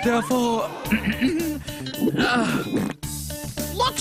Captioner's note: clears his throat, audience gasps